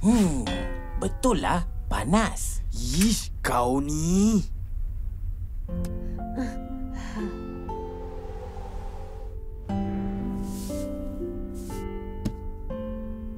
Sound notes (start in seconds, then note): 6.9 softly sighs; 9.9 tender music playing